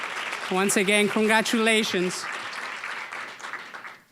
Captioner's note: applause